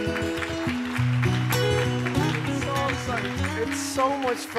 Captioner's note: audience applause